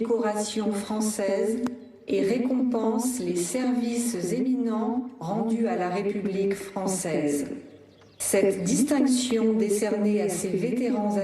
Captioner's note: speaking global language